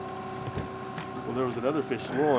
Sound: trolling motor humming

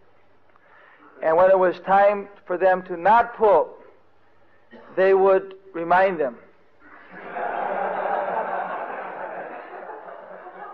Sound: devotees laughing

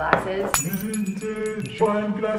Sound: glass shattering sound

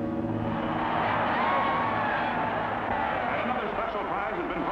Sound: crowd roars

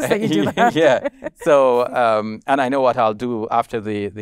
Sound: both chuckling

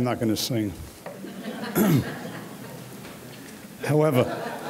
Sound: audience laughing

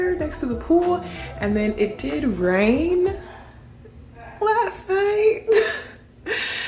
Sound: chuckles

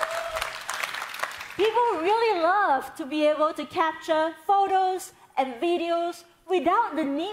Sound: cheering

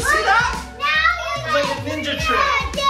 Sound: children yelling

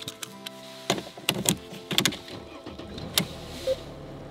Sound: seatbelt buckling; ignition turning

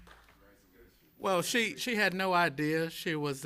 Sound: applause

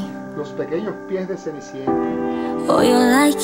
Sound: speaking in foreign language

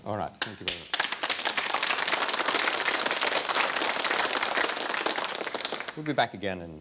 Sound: applause

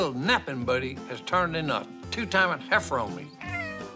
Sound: meows

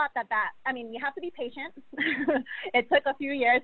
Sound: laughs

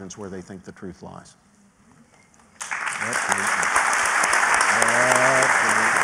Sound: applause

